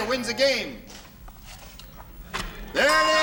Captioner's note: ding